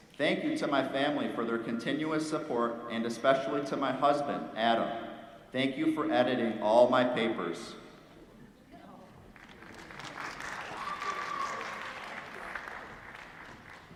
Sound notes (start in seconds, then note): 9.3 applause